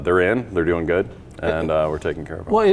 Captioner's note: chuckles